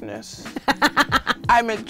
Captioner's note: laughs